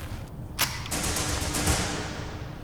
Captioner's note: gun cocks